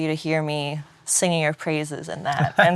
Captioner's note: laughs